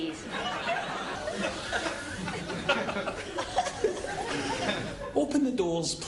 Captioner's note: laughter